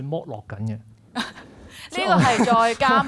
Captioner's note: laughs